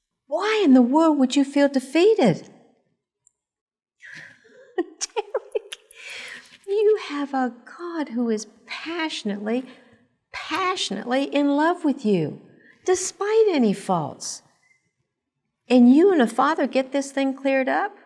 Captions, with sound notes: Why in the world would you feel defeated? (laugh) Derek, You have a God who is passionately, passionately, in love with you despite any faults. And you and The Father get this thing cleared up,